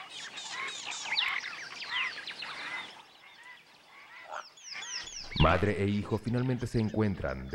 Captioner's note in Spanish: sonidos selváticos